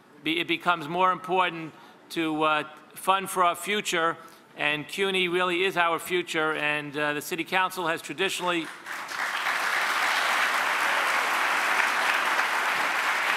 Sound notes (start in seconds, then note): 8.6 audience applauds